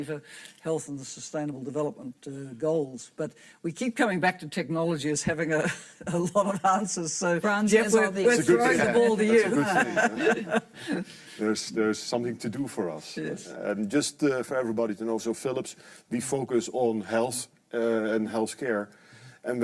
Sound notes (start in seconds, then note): 5.7 laughs; 10.8 panelists laughing